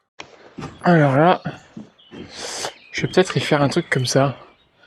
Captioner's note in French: grognement